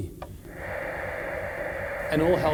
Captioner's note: static